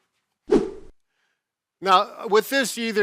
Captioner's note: air whooshes